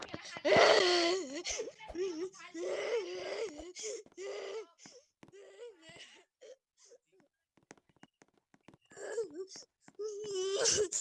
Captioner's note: crying